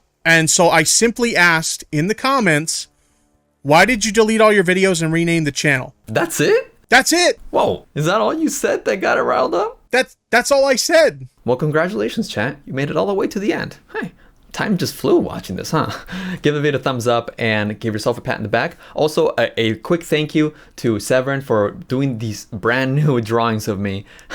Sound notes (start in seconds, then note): 15.6 laughs